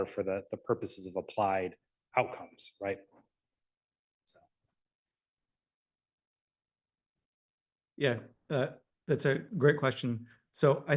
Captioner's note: pause